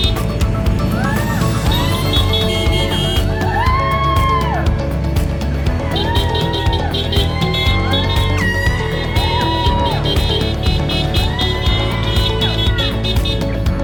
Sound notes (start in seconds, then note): 0.1 crowd cheering; 9.8 air horn blows